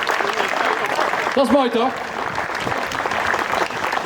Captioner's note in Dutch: applaus